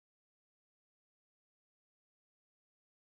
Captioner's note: none